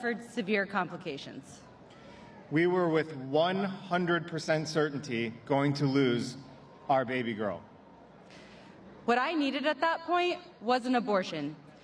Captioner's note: cheers and applause